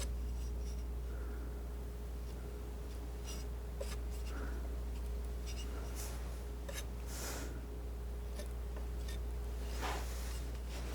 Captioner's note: scratching